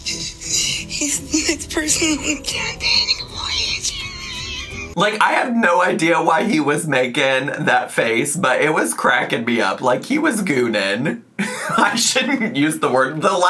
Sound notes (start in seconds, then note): 4.2 wheezing